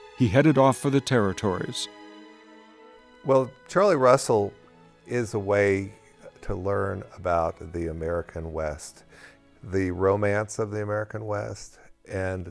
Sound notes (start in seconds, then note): 3.4 voiceover